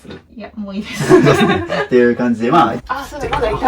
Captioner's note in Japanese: 笑い